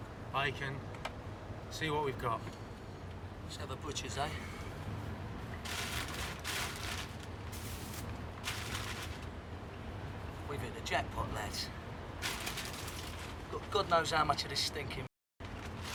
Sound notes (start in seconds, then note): none